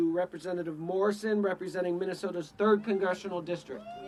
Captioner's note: cheering